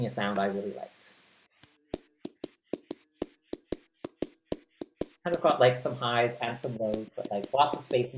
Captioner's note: gentle clap